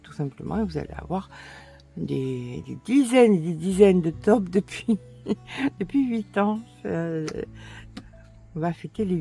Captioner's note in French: rires